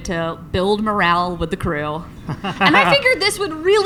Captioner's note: laughs